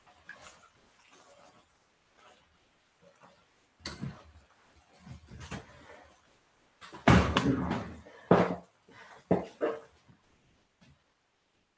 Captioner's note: silence